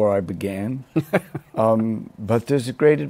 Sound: laughs

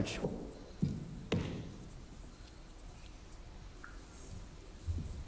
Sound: footsteps on stage

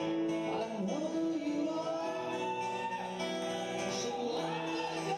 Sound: audience cheering

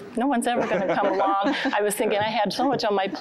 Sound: giggling

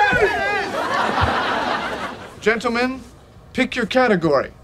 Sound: audience laughing

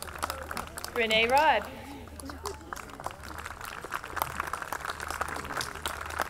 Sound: audience clapping

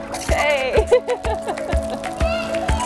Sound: laughing; upbeat music

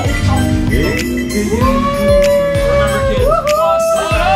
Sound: people cheer

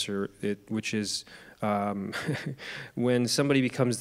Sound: chuckles

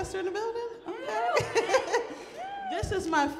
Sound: audience cheers

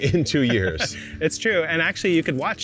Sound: laughing

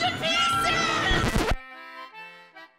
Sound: record scratch

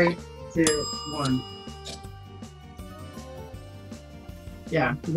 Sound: timer ding

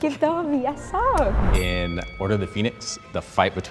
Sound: bell dings

